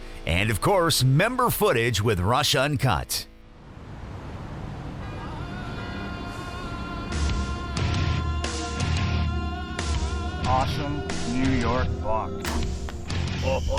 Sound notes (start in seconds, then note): 4.8 car horns honking; 7.8 energetic rock music